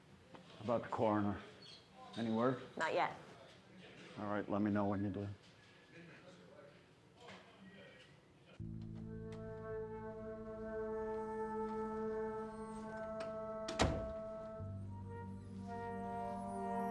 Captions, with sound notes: How 'bout the coroner? Any word? - Not yet. - All right, let me know when you do. (pensive music) (door closes)